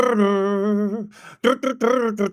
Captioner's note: humming